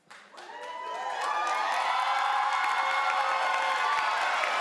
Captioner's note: crowd cheers loudly